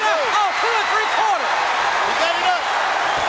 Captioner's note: audience cheering